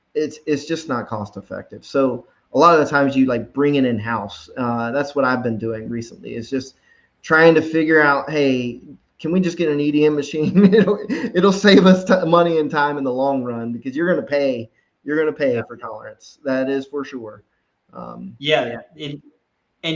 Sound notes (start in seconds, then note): 10.8 laughs